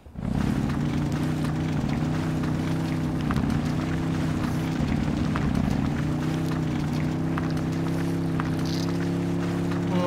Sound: engine sound

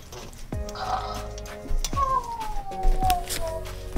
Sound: Rollie snores

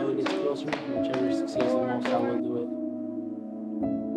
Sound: chanting

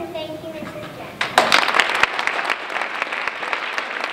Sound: applause

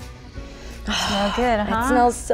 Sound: exclaims

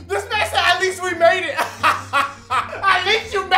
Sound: laughs

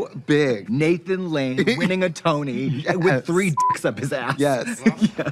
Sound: beep

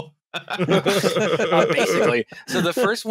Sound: laughter

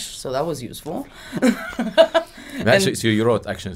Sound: laughing

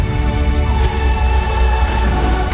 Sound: music intensifies; thrum

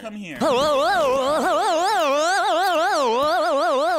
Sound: loud yelling

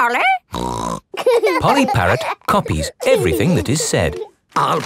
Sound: laughing

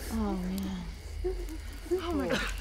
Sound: whimpers

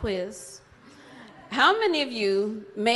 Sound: audience laughs

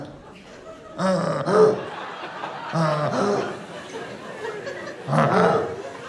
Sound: wheezing breaths

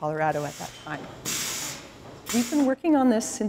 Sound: tools blowing air

